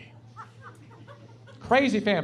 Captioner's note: laughing